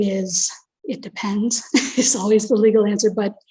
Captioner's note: chuckles